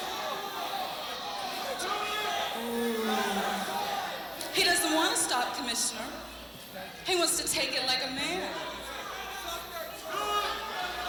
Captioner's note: crowd cheering